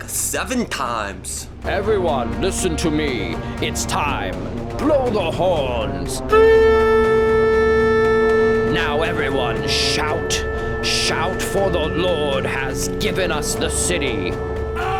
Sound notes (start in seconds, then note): 6.5 horns; 14.8 shouting